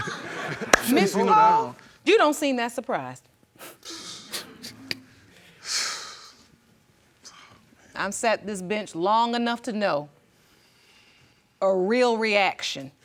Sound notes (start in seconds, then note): 4.1 audience murmuring; 5.4 exhales